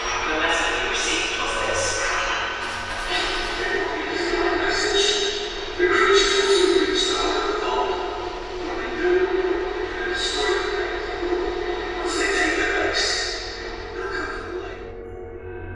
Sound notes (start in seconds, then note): 0.2 distorded signal; 4.7 distorded signal